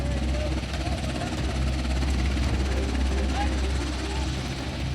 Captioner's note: people chattering